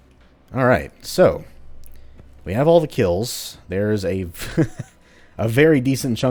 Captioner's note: chuckles